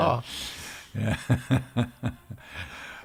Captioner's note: laughing